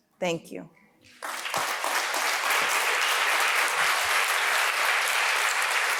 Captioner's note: applause